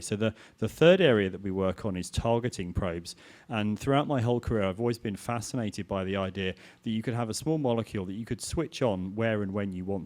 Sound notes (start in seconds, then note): none